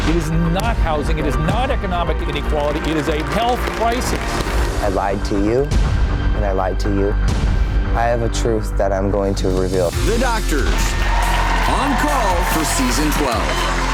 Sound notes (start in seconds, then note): 10.0 audience cheering